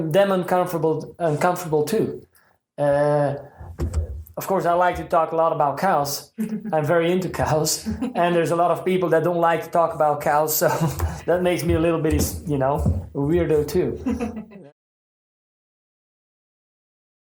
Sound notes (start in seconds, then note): 14.0 laughs